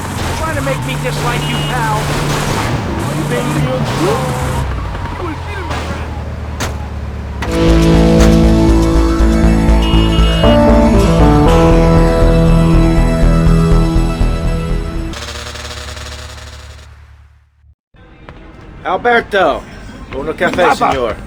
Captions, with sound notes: You're trying to make me dislike you now! Are you being a good boy? You will see the raindrop! (static) Alberto, go look at the face of your...